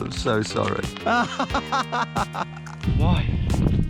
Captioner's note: laughing